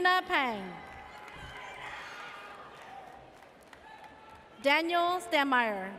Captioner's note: audience cheers